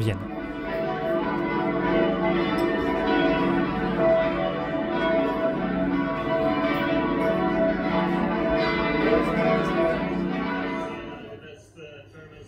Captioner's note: bells sound